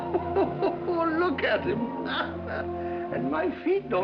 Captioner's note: laughing